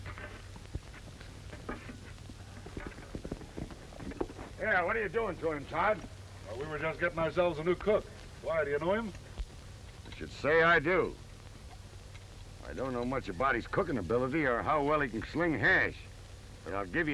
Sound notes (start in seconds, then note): none